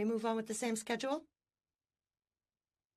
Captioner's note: speaking French